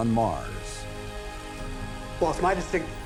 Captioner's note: rover buzzing